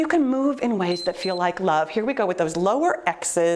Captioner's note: timer beeps